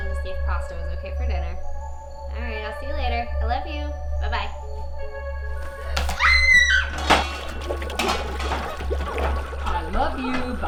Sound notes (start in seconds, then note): 6.0 woman screaming; 8.1 water bubbling